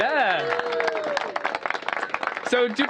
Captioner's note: cheers and applause